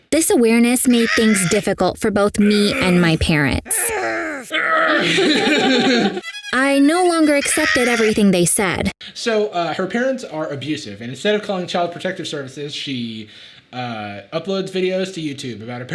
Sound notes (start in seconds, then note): 3.7 parents grunting; 3.8 Jarvis grunting; 4.6 Jarvis and Sadie laughing